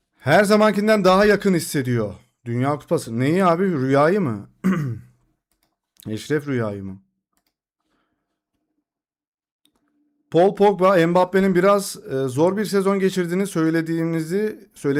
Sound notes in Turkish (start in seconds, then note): 4.6 boğazını temizler